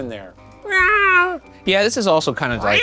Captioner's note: imitating cat meowing; imitating cat meowing